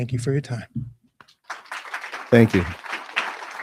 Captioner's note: crowd applauding